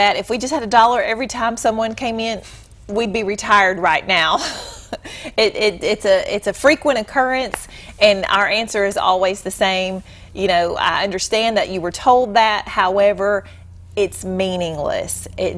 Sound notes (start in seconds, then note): 4.4 chuckle